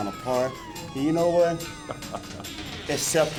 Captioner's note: Hulk chuckling